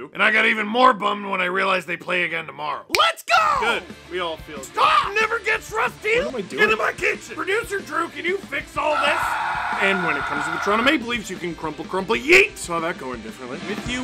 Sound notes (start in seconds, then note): 8.8 screaming